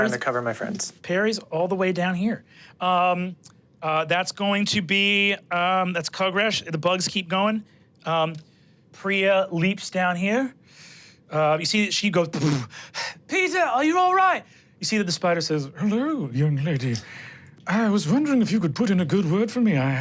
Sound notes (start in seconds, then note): 12.4 blows